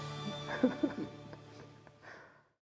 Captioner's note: chuckling